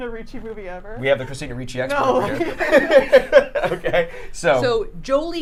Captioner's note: laughs